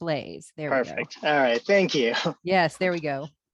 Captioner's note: laughs